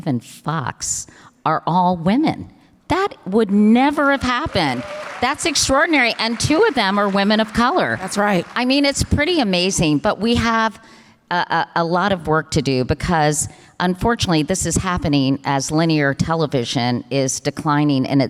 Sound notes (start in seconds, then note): 3.7 audience cheers and applause